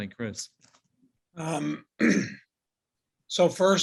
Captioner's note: clears throat